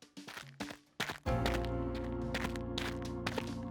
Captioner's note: quiet footsteps